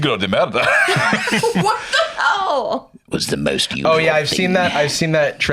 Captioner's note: laughing